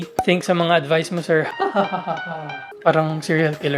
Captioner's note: evil laugh